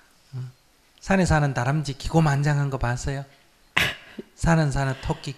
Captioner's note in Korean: 질문자 웃음